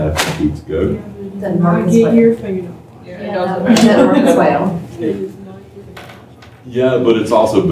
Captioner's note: laughter